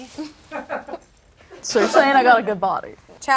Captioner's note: audience laughs